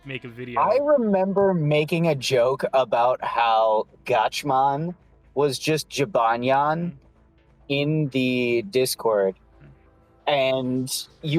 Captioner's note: echo